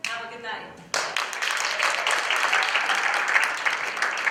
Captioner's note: applause